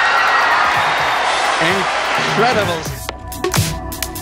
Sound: crowd cheering; rhythmic dance music

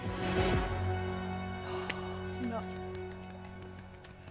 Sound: gasping; applause

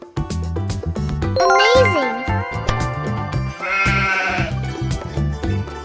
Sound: sheep sound

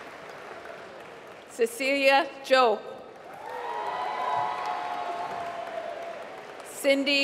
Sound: applause

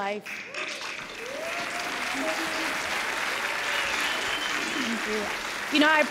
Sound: cheers and applause

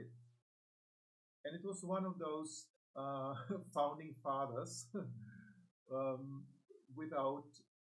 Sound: laughs

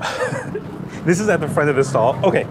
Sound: chef speaking foreign language; laughs

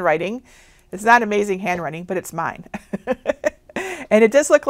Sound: laughs

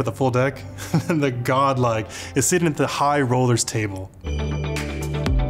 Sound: laughs; upbeat chill music

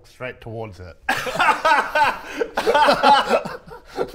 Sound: incredulous laughter

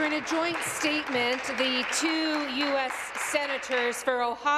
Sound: applause

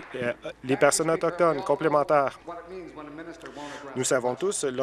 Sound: applause

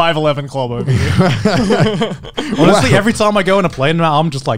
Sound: everyone laughs

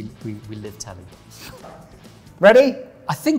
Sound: Ant laughing

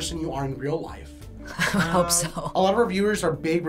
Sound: chuckles

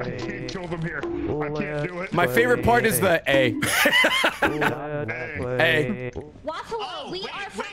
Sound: laughs

